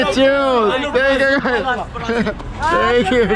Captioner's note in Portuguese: falatório